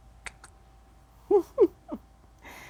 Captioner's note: laughing